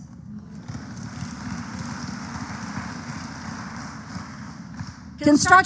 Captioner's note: applause